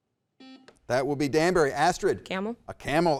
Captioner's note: button beeping